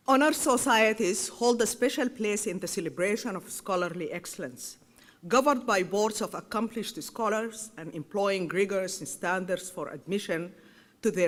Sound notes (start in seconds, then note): none